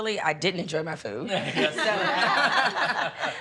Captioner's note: laughing